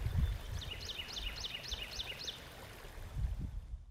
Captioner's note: water burbling; bird chirping